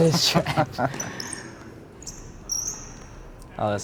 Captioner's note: laughing